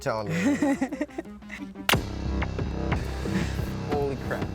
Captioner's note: laughs